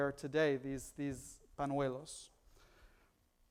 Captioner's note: foreign language